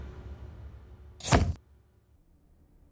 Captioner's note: camera shutter sound